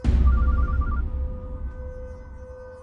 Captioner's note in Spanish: Suena el celular